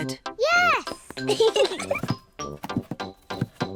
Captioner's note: both giggle